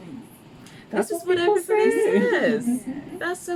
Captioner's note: laughs